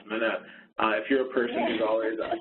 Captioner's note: laughs